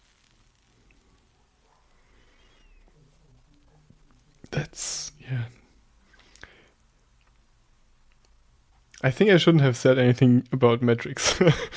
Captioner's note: pause